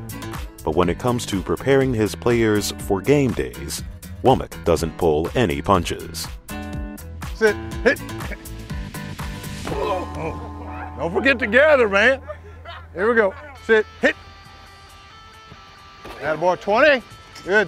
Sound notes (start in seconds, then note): 0.6 voiceover; 9.6 players grunt